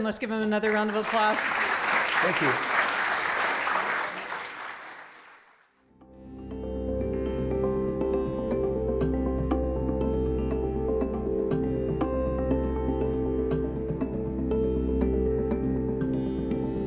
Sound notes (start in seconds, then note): 2.6 applause